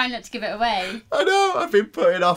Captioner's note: laughing